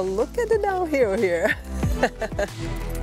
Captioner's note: laughs